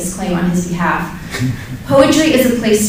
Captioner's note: laughs